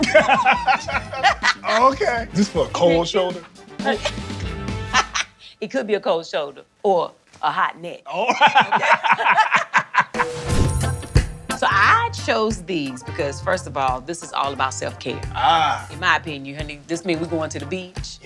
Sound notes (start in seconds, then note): 0.0 both laugh; 5.1 laughs